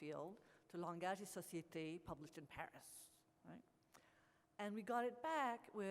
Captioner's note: speaks French